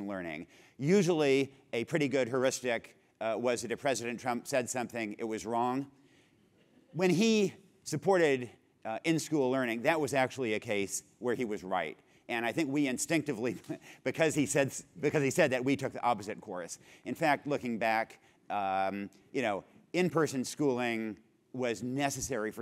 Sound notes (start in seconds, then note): 13.4 laugh